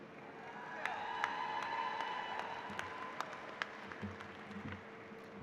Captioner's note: applause